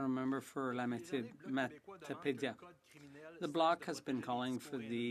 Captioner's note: speaking French